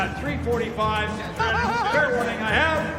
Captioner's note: laughs